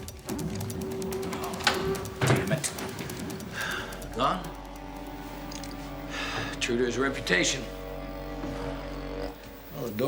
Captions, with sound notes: Oh, damn it! Gone? (sighs) True to his reputation.